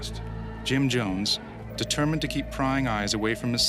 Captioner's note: voiceover